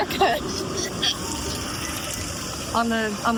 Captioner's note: heaves; hoots